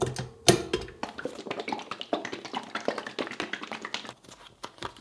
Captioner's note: metallic clang, clunk, clinking; sloshy liquid